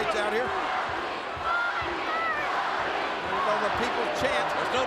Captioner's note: crowd chants "Rocky"